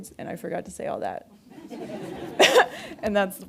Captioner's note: audience laughing